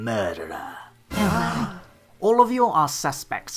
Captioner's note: gasping